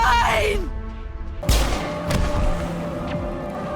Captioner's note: bang